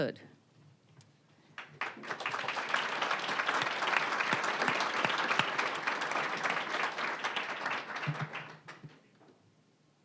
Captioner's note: applause